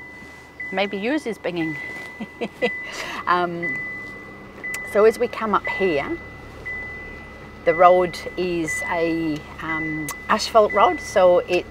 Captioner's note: chuckles